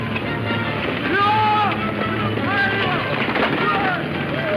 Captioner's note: men shouting